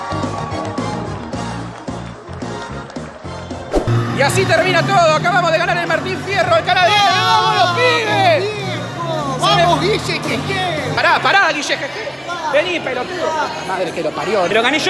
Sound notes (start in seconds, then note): 6.8 both explode with joy